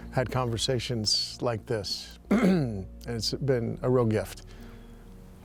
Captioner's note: clears throat